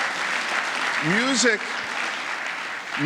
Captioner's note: applause